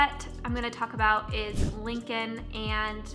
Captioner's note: air whooshing